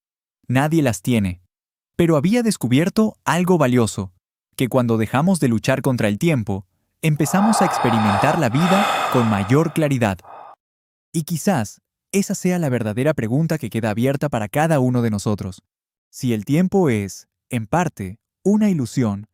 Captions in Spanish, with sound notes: nadie las tiene, pero había descubierto algo valioso, que cuando dejamos de luchar contra el tiempo, empezamos a experimentar la vida con [suspiro] mayor claridad. Y quizás esa sea la verdadera pregunta que queda abierta para cada uno de nosotros. Si el tiempo es en parte una ilusión,